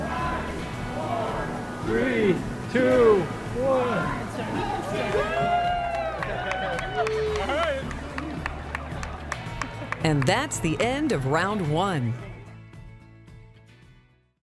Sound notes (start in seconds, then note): 0.0 crowd; 6.5 crowd cheering